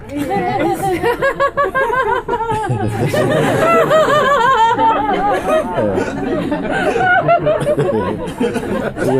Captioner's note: laughter